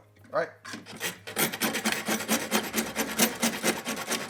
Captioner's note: sawing